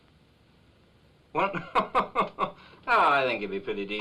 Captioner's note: chuckling